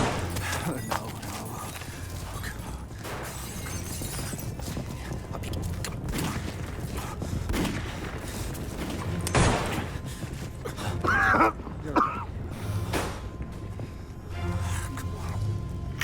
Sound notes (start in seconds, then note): 7.5 gunfire pops; 10.8 sheriff coughs